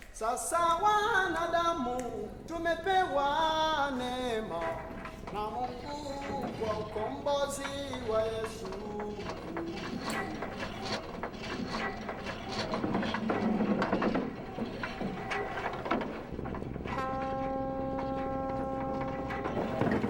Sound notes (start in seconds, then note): 0.1 singing continues; 11.6 chain clatters onto roller; 16.1 ship horn blowing